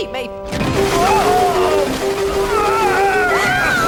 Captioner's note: water pouring